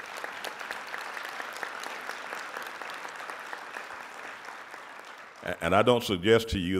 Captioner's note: audience applauding